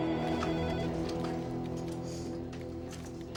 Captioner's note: telephone rings